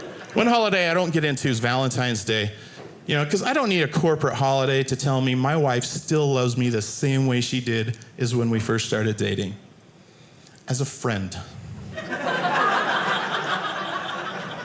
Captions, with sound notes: One holiday, I don't get into is Valentine's Day. You know, because I don't need a corporate holiday to tell me my wife still loves me the same way she did is when we first started dating as a friend. (audience laughing)